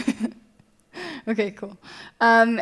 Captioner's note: chuckles